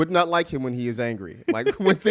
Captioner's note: laughs